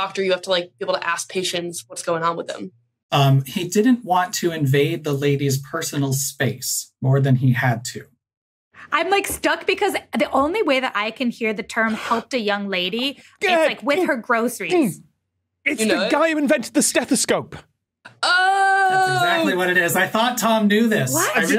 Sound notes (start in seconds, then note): 14.8 stammers